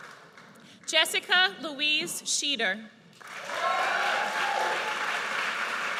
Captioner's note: audience cheers